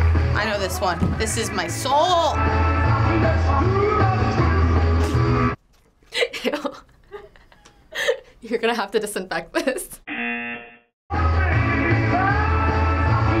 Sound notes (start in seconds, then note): 6.1 snickers; 10.0 buzzer